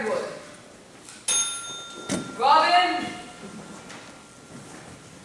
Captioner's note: bell rings